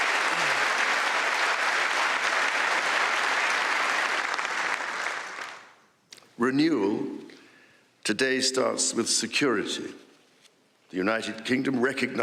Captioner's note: applause